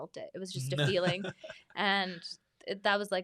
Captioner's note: laughs